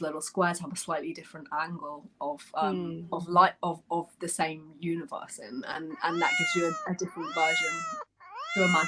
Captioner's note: miaow sound